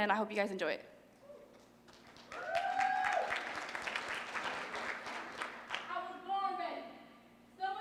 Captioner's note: applause